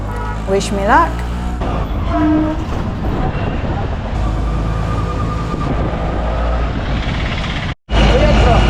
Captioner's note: auto engine